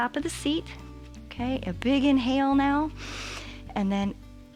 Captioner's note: inhales